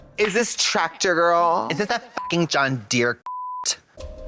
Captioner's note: beep